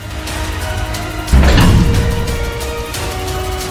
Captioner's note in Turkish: kapı kapanır